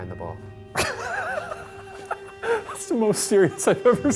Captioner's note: laughing